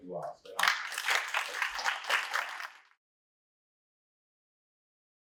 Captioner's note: applause